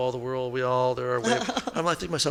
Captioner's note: laughing